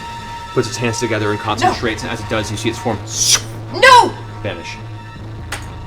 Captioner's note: sucking noise